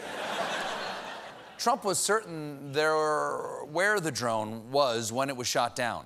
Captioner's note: laughter